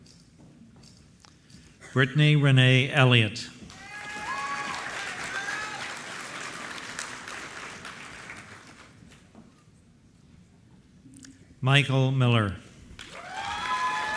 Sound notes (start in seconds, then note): 3.6 applause